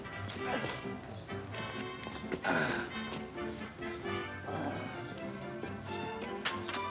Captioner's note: gentle music; horn honking; gentle music; birds chirping